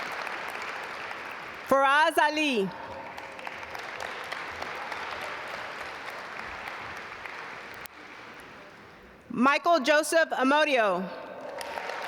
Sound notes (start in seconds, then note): 2.7 audience applaud